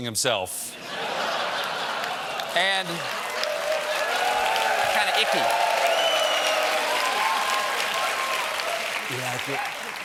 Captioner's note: laughter; applause